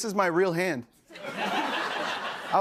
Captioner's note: laughter